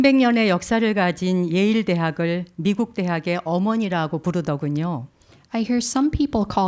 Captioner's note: speaking in Korean